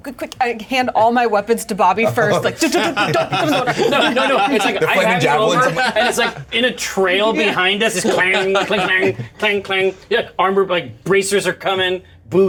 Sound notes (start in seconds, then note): 2.2 Jim laughs